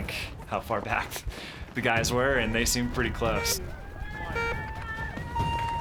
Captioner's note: horn beeping